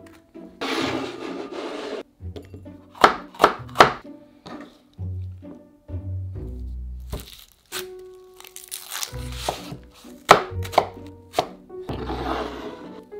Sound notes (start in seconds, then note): 0.6 bowl sliding; 2.9 knife chopping; 9.0 onion paper rustling; 10.0 knife chopping